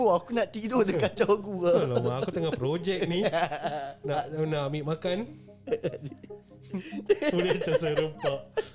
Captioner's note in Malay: ketawa; ketawa